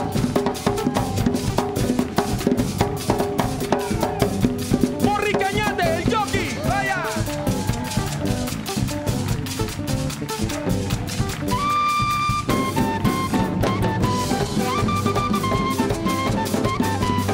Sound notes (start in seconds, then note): 5.2 speaks in Spanish